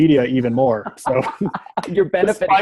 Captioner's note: laughing